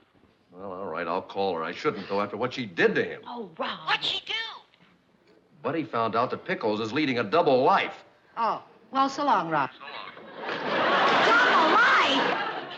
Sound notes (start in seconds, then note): 4.4 on phone; 10.0 on phone